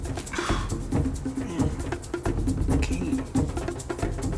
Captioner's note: exhales sharply